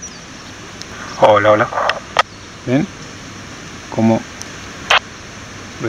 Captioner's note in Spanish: acople